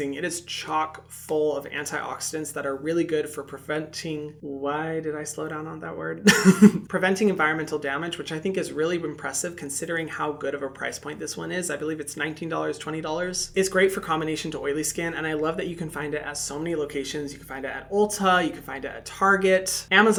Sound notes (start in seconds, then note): 6.2 laughs